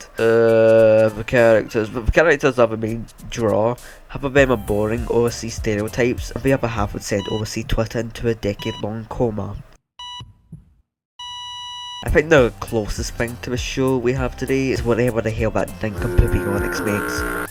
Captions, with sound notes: ughhhhhhhh the characters th-The characters are the main draw. Half of them are boring OSC stereotypes, and the other half would send OSCTwitter into a decade-long coma. (heart monitor beeping and flatlining) I think the closest thing we have to this show we have today is whatever that nincompoop Eonix makes. (stinky foghorn sound)